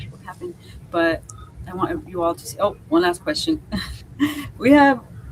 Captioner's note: chuckles